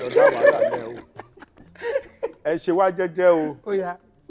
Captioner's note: everyone laughs